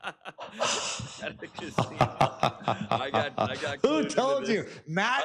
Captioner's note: laughs